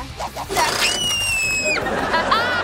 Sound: screaming; laughing

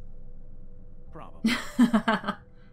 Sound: chuckles

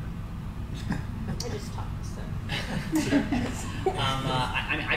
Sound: panel laughs

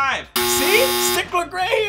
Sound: buzzer

